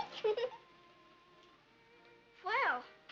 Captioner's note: giggles